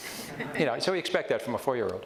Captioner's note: audience chuckles